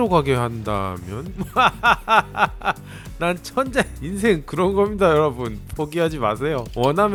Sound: laughs

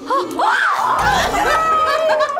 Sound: both scream; laughs

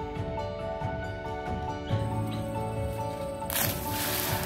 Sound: splash

